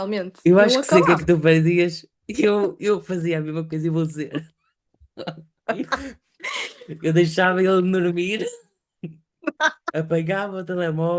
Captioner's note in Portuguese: risadas